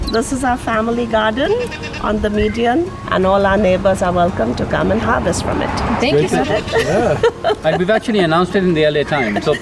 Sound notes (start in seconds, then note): 6.0 laughing